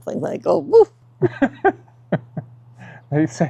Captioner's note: laughs